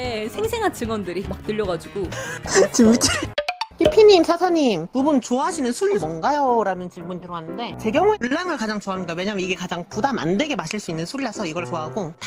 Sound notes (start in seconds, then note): 2.4 laugh